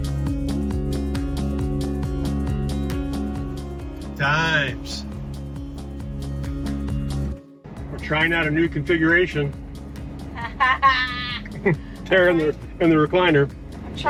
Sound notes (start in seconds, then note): 5.3 carefree music; 10.3 laughs